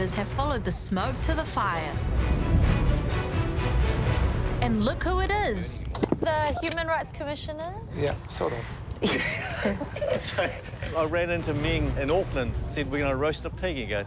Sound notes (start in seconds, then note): 9.0 laughter